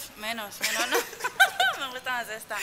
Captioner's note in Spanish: risas